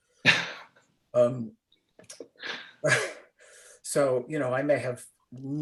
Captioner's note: laughter